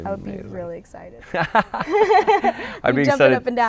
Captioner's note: laughter